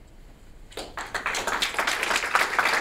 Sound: applause

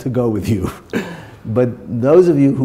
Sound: chuckle

